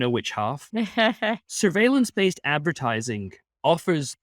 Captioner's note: laughing